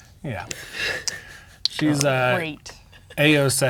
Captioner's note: chuckling